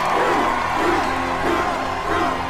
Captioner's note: cheering; chanting